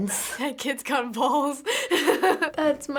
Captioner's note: laughs